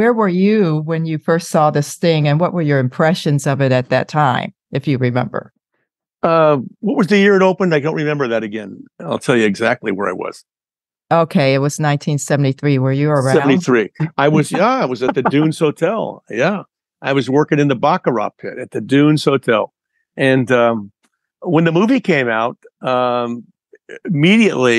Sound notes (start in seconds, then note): 14.3 laughter